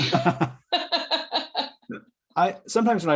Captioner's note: laughter